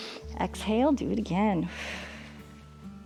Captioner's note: inhales; exhales